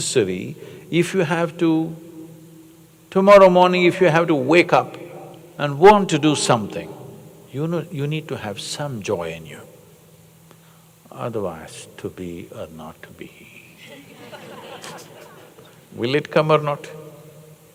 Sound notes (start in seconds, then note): 13.8 laughter